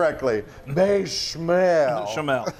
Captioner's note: laughs